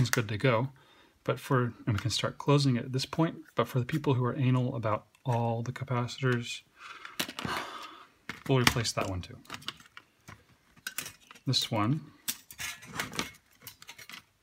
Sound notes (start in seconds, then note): 7.3 sigh